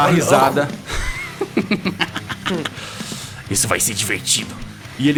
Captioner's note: laughs